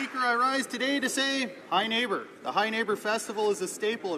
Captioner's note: applause